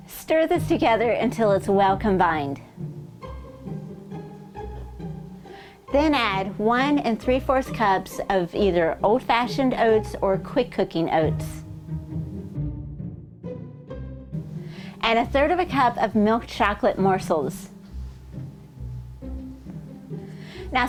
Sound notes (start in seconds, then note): none